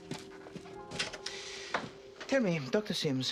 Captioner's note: Pintu terbuka